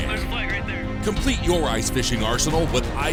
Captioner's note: voiceover